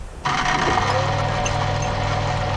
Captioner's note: machine noises